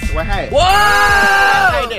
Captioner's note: shouts